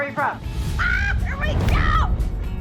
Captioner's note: exclaims